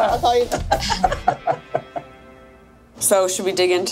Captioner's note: laughing